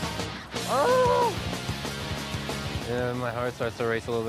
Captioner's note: groans